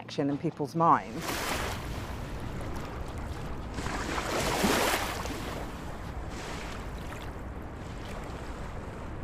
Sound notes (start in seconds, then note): 1.1 water splashing